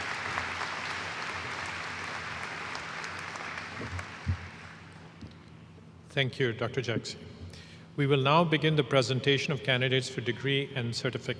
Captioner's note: applause